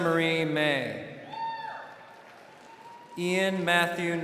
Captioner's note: crowd cheering